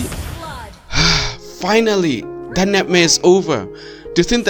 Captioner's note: sigh